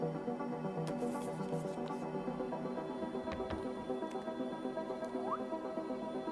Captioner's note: whistles